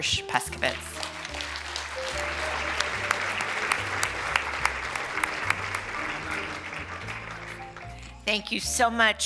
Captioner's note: applause